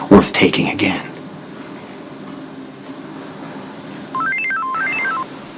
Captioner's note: cell phone dings